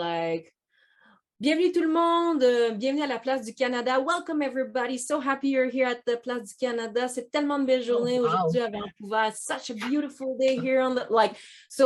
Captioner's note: speaks French again